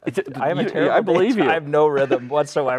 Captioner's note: laughing